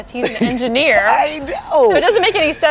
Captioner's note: laughs